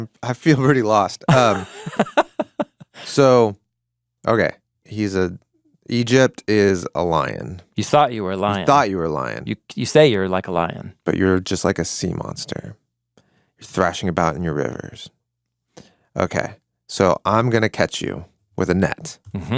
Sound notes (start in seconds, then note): 1.2 laughs